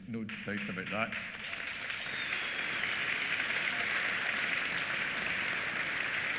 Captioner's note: applause